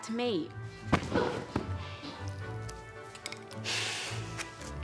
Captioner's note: body thudding; grunts; sighs